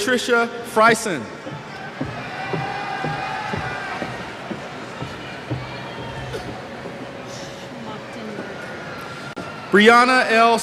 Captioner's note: cheers